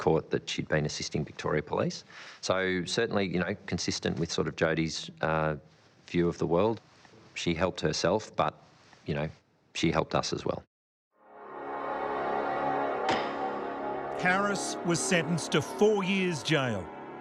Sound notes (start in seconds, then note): 11.3 dramatic music; 11.4 gavel banging